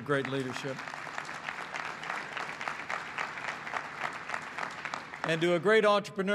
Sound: applause

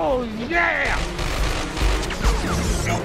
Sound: gunshots

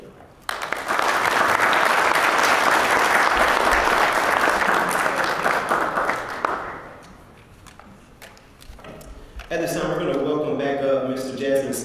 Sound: applause

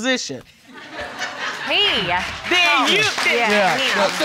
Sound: audience laughing

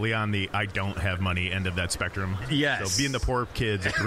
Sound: laughing

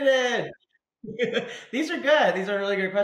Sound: laughs

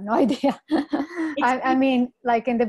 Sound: laughs

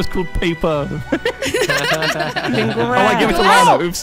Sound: all laughing

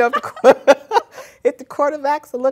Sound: laugter

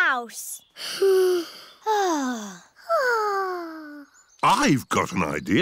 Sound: all sigh

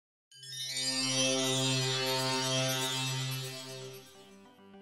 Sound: magical chimes

